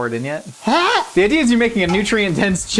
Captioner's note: grunts